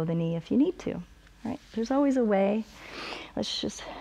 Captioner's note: inhales